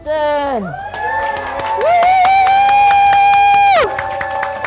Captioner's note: applause